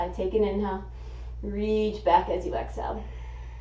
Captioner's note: exhaling; inhaling